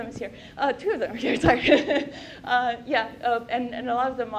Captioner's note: chuckle